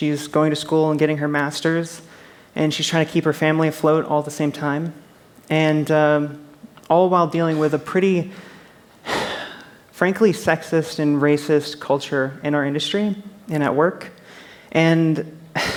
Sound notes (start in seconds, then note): 9.1 sigh